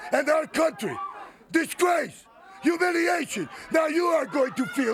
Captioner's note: crowd clamoring